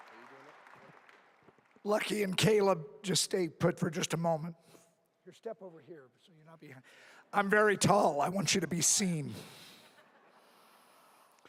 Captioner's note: applause